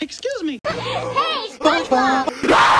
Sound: laughs

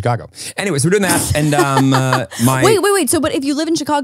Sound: laughs

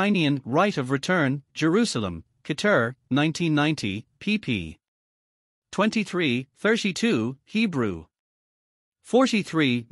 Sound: Hebrew

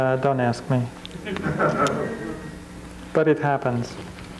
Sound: crowd chuckles

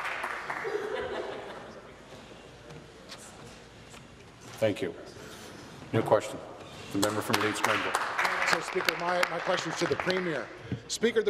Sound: applause

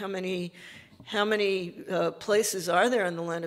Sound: none

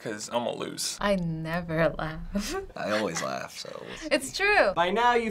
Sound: giggles

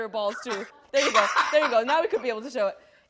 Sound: laughs

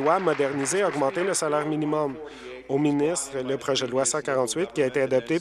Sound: applause

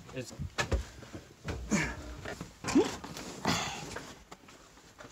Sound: movement on stairs

